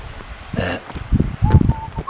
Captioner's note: burp